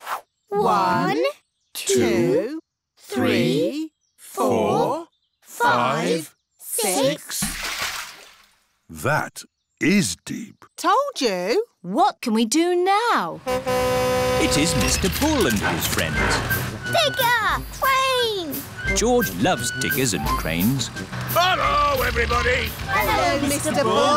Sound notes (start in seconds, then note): 7.3 splash; 13.4 horn honks